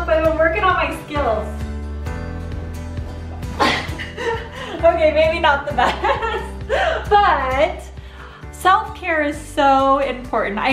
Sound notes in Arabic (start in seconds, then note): 3.5 يضحك